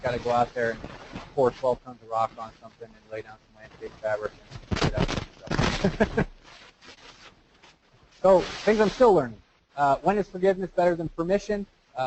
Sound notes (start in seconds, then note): 5.7 laugh